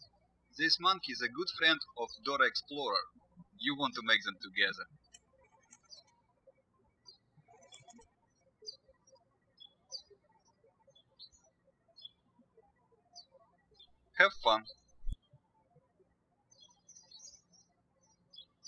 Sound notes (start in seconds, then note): 6.3 birds chirping; 16.5 birds chirping